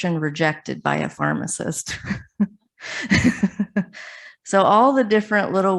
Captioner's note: chuckles